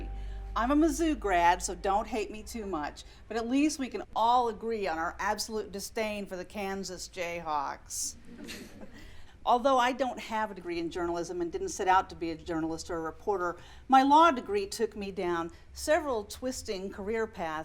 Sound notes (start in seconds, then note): 8.3 scattered laughter